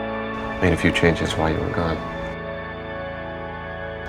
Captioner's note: voiceover